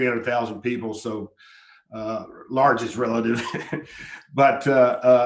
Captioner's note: laughs